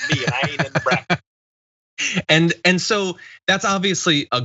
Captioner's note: laugh